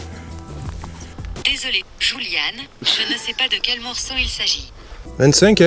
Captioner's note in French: voix de robot